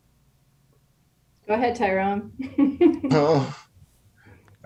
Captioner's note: laughs